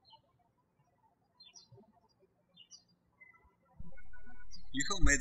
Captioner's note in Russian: птички щебечут